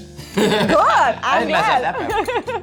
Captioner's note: laughing